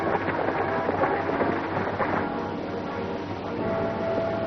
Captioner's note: hooves clatter